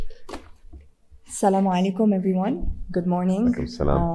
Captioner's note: speaking in a foreign language